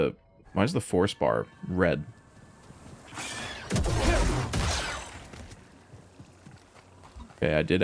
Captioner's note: gunshots